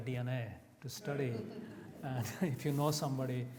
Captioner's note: audience laughs